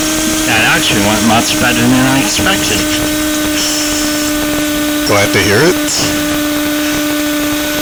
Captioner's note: laugh